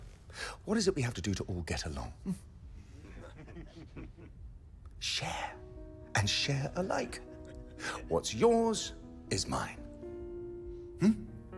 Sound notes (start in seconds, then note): 3.0 men chuckling